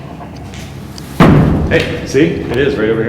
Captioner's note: bang